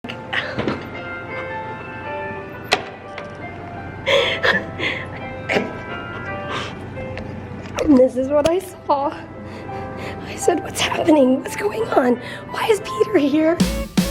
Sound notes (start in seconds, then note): 0.3 crying